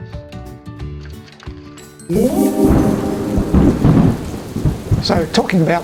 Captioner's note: thunder